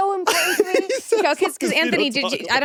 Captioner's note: laughs